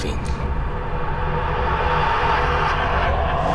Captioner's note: distorted laughing